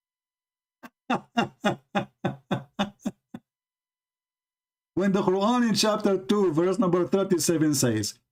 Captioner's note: Ketawa